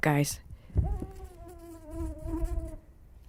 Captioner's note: mosquito